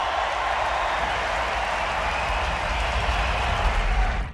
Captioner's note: crowd applauding